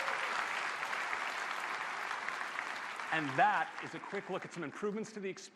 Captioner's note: applause